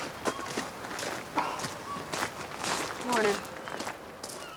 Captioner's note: none